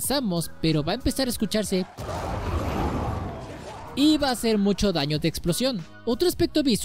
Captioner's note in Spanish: beep, beep, ¡¡BOOM!!